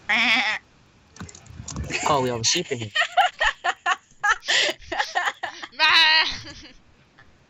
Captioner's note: laughs